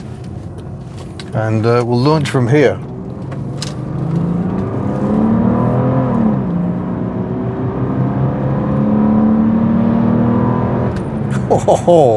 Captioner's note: engine noise